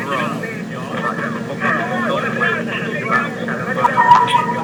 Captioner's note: people chattering